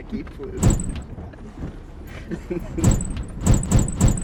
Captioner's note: laughs